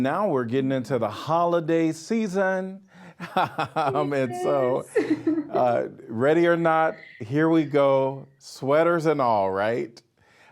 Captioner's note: laughing